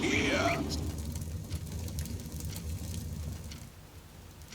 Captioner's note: fire crackling